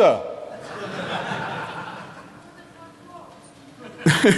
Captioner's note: laughter